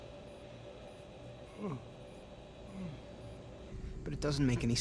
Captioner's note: yawns